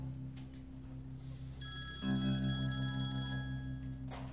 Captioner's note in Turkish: Telefon çalıyor